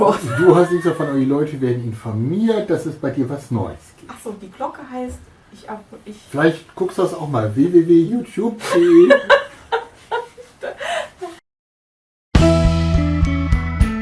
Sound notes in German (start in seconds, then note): 0.2 Aus dem Off; 6.1 Aus dem Off; 8.7 lachen